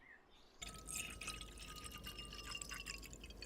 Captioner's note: water Pouring